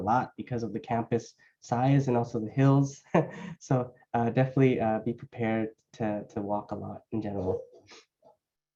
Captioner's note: laughter